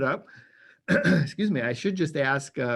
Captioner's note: clears throat